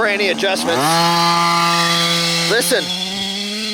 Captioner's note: engine roaring